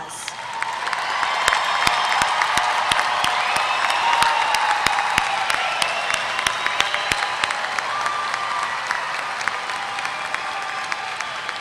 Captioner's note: applause